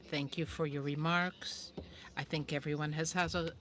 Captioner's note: speaking French